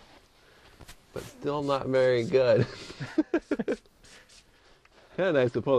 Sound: laughs

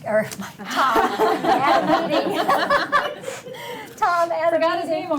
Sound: board members laughing

